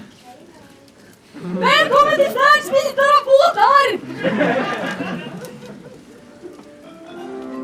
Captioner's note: laughter; loading music